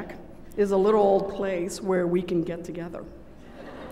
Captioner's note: laughter